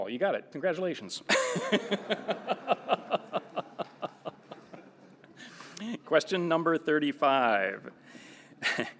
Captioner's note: laughter